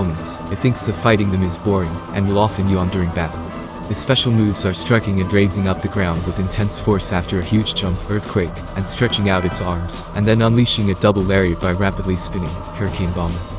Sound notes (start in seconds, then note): 8.0 earthquake